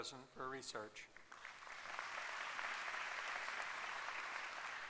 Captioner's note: applause